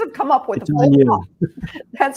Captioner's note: chuckle